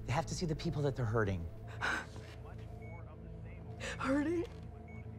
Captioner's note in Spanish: Sollozando